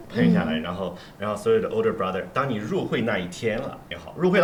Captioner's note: none